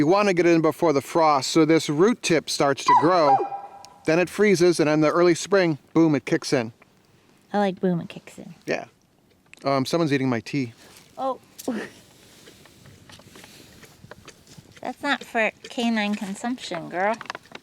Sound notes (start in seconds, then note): 12.6 chuckles